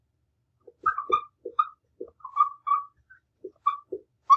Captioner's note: marker squeaking